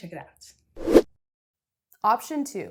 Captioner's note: air whooshing